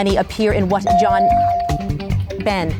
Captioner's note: bell dings